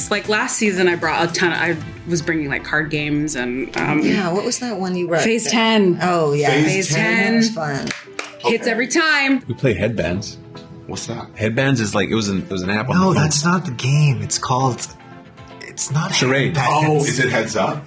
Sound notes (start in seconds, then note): 7.8 clapping